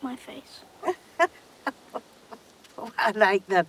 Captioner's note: laughing